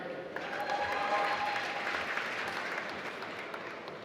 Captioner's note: applause